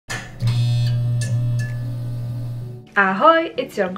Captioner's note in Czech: zvuk žhavící se lampy